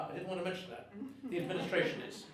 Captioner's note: audience laughing